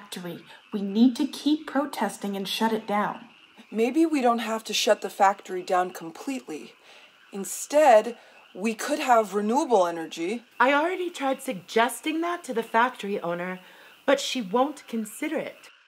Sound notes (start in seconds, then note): none